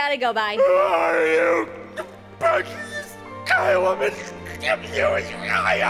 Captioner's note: Appa Layer Emotionally Screaming